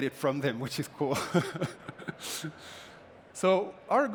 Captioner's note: laughter